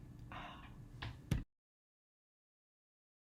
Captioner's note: sighs